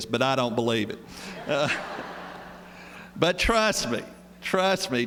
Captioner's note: laughter